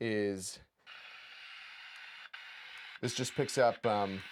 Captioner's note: radio static crackling